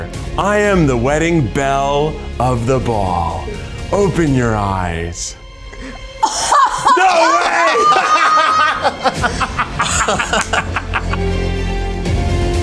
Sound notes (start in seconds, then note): 6.2 laughs; 9.6 dramatic music